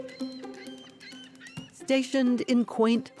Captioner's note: bird calling